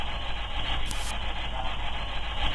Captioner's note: faint Voice